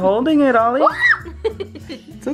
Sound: laughing; screaming

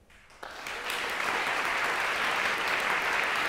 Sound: applause

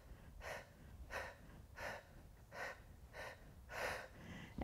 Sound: quick breaths

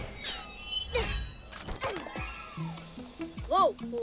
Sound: grunting

